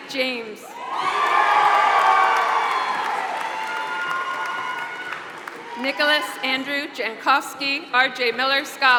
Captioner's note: applause